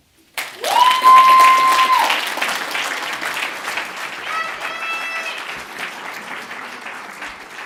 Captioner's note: audience cheers and claps, exits stage